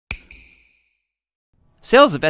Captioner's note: snap